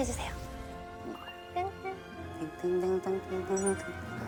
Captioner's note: excitedly